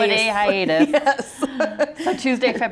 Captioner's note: laughs